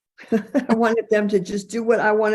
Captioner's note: person giggling